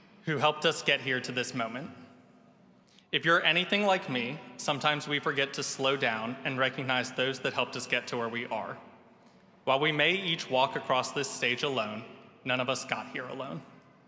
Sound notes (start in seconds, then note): none